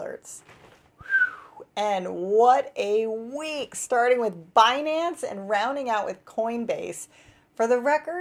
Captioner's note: whistle